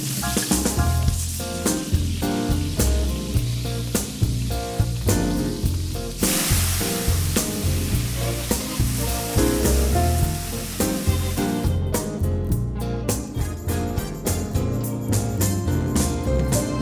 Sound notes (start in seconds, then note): 0.2 upbeat music; 6.3 oil sizzling; 11.6 upbeat music